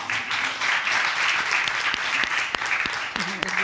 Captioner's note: applause